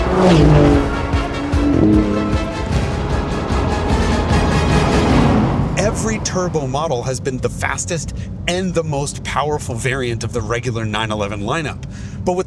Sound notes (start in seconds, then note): 0.0 engine revving; 5.3 dramatic music fades